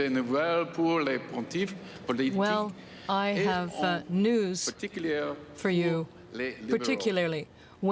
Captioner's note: speaking French